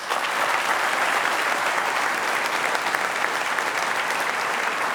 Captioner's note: applause